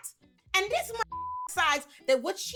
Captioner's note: beep